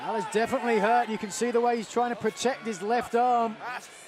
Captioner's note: crowd chatter